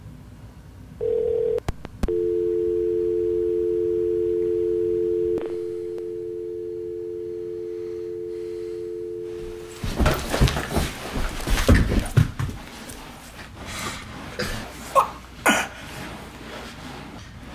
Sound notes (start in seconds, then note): 2.0 dial tone